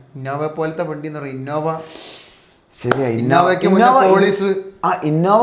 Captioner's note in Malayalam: ചീറ്റുന്നു